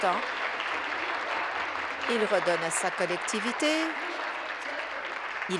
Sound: applause

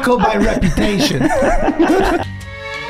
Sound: all laughing; gentle jazz music

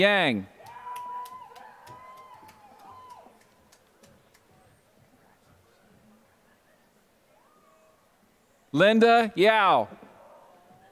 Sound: applause

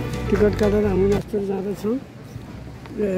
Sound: waterfall

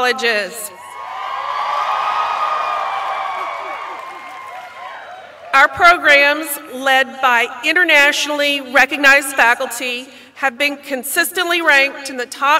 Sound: applause

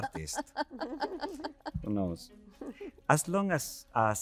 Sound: lady chuckling

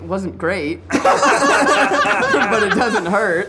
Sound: all laughing

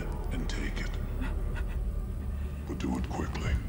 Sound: person crying

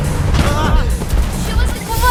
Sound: screams

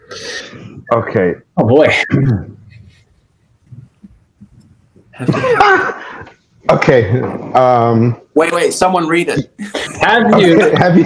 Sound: chortles

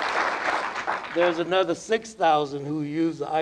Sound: applause

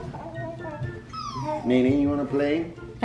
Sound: squeals

